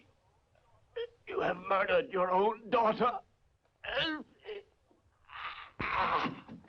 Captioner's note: groans